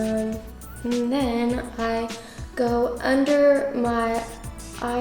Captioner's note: none